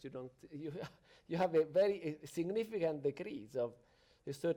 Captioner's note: chuckles